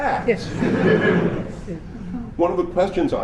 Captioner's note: laughter